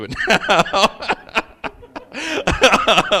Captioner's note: laughing